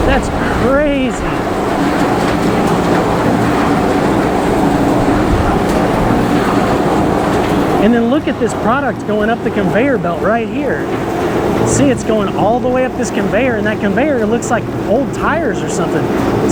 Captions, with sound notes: That's crazy! (machine whirring) And then look at this product going up the conveyor belt right here. See, it's going all the way up this conveyor and that conveyor, it looks like old tires or something.